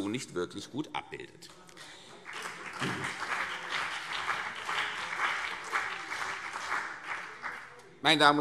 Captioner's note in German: Beifall CDU und BÜNDNIS 90/DIE GRÜNEN